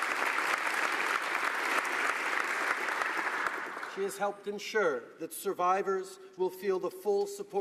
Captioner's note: applause